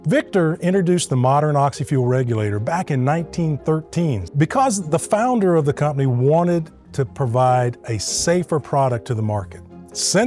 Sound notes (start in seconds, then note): none